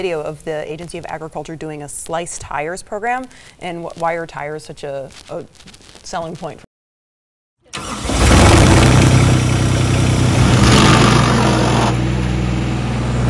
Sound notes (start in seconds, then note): 7.7 machine revving; 10.3 slicer rumbling